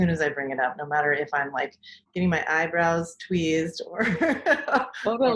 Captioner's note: laughs